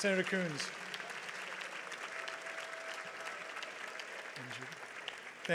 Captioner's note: audience applauds